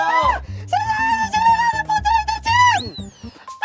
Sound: falsetto over a thousand years

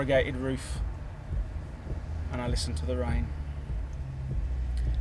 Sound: taps fingers like rainfall

